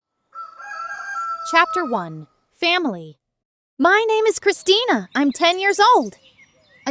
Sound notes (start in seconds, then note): 0.3 rooster crowing